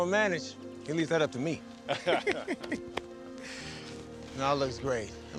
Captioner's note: laughs